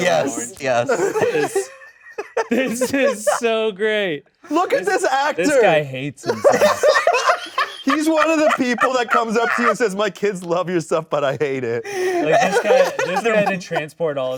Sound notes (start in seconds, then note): 6.2 all laughing